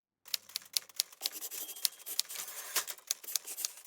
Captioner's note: typewriter clicking